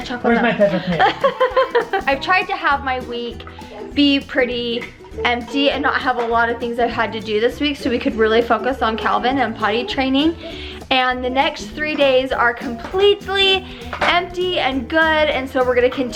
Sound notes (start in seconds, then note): 1.3 laughing